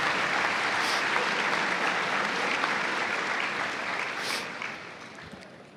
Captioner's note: cheers and applause